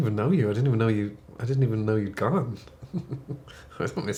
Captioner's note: laughs